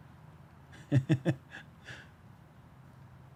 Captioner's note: chuckles